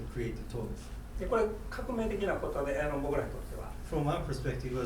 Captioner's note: speaking in foreign language